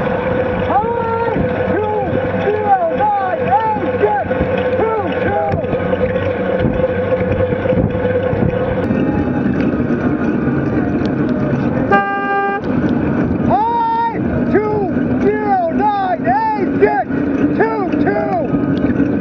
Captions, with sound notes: Hi! 209A622. [toot] Hi! 209A622.